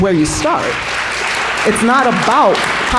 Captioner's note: applause